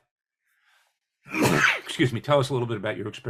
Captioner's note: sneeze